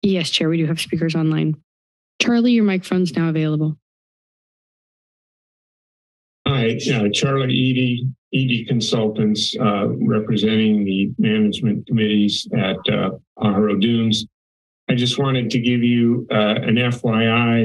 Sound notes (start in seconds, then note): 3.9 silence